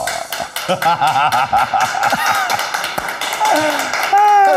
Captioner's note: laughing